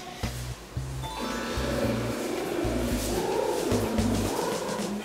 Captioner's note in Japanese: 喉をウォーミングアップ中